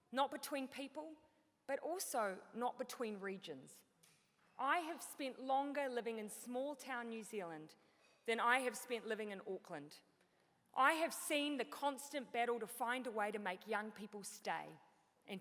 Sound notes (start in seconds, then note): none